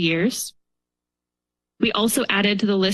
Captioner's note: pause